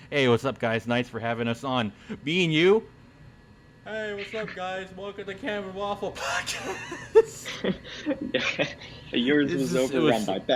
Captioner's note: laughs